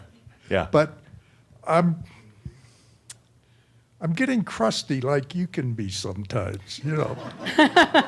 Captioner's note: some chuckles